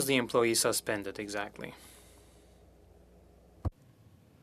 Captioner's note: speaking French